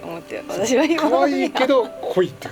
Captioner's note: laughs